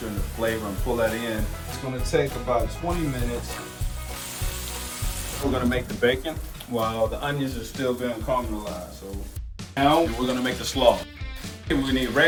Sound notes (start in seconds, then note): 4.5 food sizzles in pan